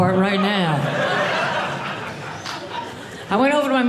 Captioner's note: audience laughing